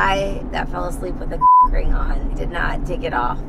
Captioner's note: beep